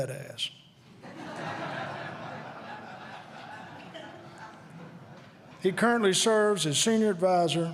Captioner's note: laughter